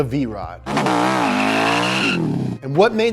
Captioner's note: engine revving